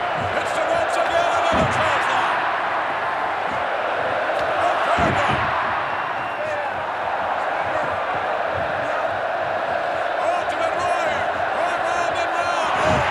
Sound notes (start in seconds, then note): 2.2 applause